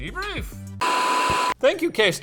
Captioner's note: static buzzes